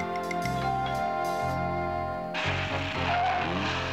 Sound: doorbell ringing

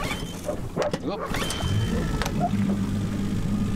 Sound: engine starts

